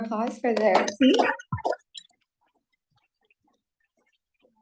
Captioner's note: applause